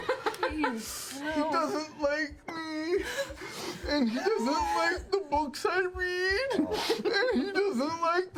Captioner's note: squeakily sobbing